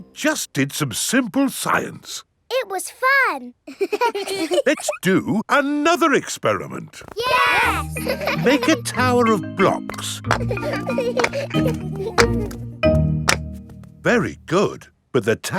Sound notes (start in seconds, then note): 3.6 children laughing; 7.2 laughing; 10.8 children laughing